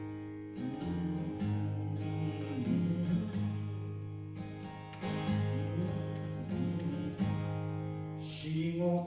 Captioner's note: humming